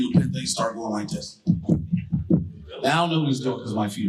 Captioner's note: thumps mic